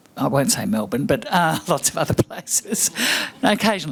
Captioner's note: laughs